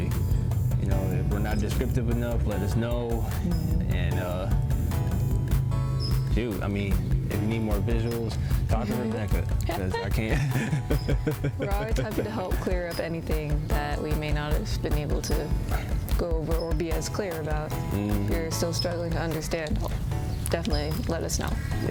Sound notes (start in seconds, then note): 9.8 both laugh